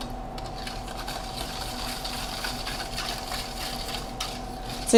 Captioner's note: whisk stirring